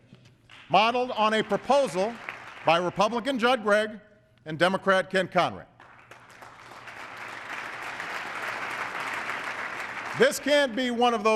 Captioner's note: applause